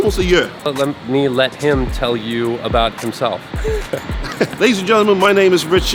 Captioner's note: laughs